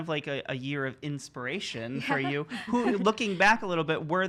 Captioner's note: laughing